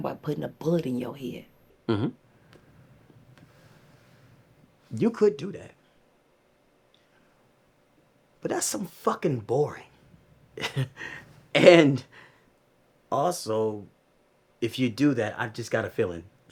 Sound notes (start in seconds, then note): 10.5 Q chuckles